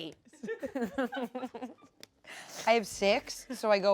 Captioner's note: everyone laughs